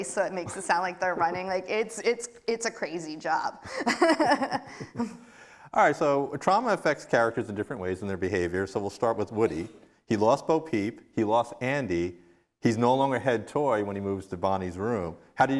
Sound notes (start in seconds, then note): 3.6 laughs